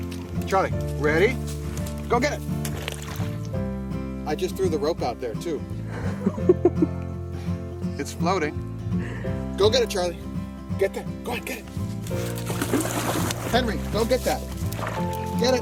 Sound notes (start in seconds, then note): 0.0 gentle guitar music; 1.6 water splashes; 6.0 camera Operator laughs